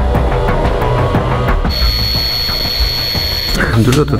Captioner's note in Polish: przenikliwy pisk dozymetru